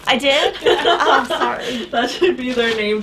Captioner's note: women laughing off screen